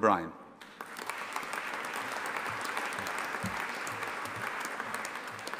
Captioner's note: audience applauding